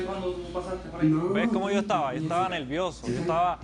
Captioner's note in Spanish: Habla entre dientes